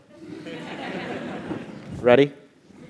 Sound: laugh

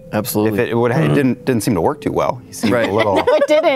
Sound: laughing

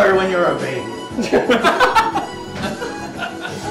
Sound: laughs again

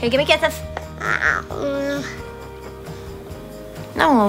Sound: grunts

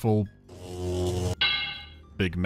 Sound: bzz-clank

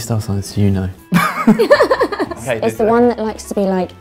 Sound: both laugh

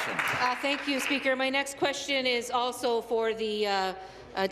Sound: applause

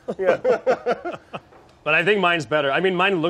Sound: laugh

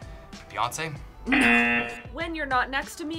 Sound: buzzer sounds

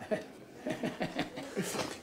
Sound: grunting

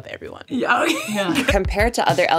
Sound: laughs

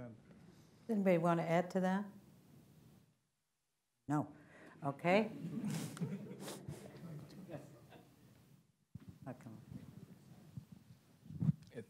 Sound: laughter

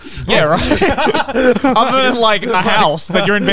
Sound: all laughing

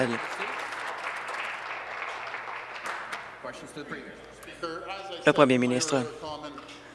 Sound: some Applause

